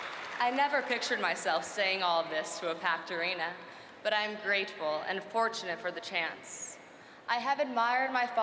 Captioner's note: cheering and applause